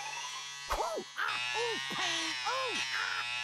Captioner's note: buzzing; Daffy groaning